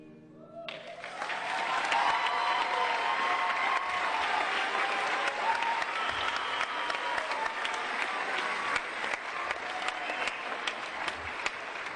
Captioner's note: applause and Cheering